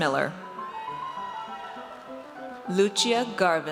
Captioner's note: audience cheers